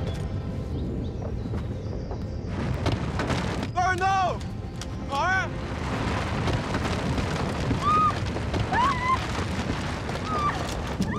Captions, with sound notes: (Sentinel crashes) - Vara, no! Vara! (Princess Vara screams)